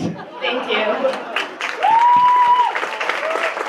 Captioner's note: applause